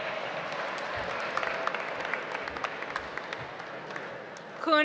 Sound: audience applauds

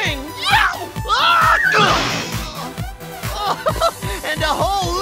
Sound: screaming

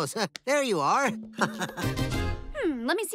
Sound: laughing

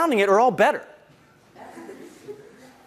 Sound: laugh

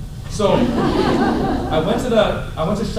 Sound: laughter

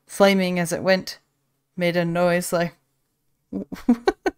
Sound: laughs

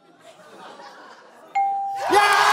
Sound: bell dings

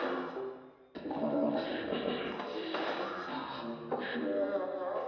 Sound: speaker growling

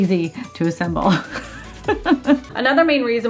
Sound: laughs

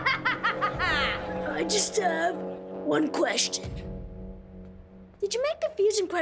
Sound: cackles; hoarsely

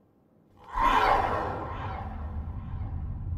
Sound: roars loudly

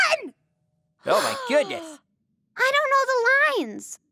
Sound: Finny gasping

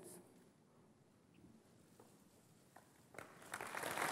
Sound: applause

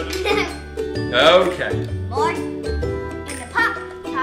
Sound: assistant laughs

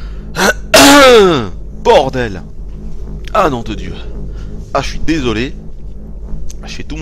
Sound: cough

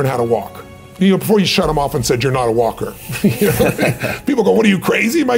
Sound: chuckle

